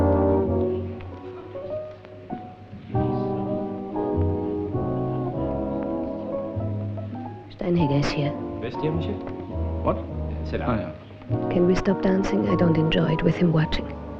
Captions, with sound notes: Steinhager's here. [French spoken audio] Can we stop dancing? I don't enjoy it with him watching.